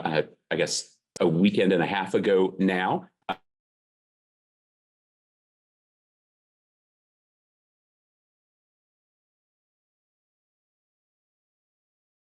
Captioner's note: audio dropped out